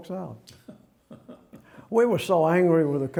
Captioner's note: chuckles